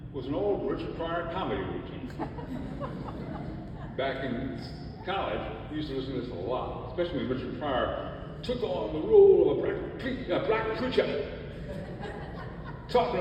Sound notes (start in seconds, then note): 2.0 audience laughs; 11.4 audience laughs